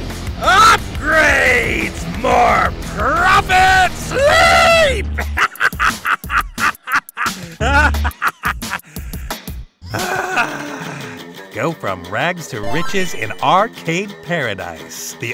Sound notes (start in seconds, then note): 5.1 chuckles